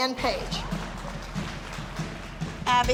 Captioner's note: applause